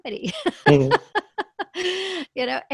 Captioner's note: laughs